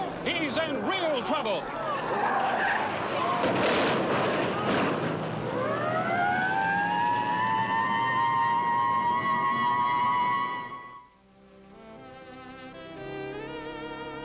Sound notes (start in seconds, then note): 1.8 tires screeching; 3.2 car thudding; 4.5 sirens blaring; 11.7 jazz music